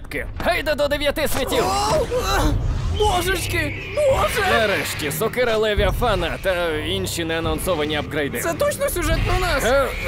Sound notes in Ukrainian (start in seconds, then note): 2.9 Волають птахи